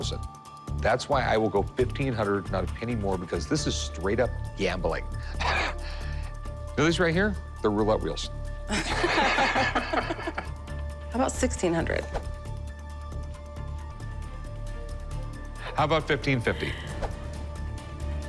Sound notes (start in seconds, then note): 4.5 chuckles; 8.7 laughter